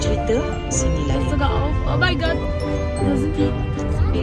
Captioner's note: speaking German